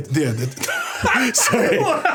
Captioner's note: everyone laughing